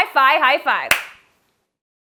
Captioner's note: hand claps